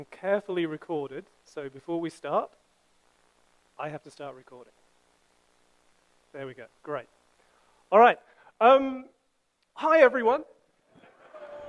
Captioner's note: some audience laughter and "Hi" returned